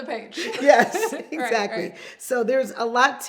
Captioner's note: both laughing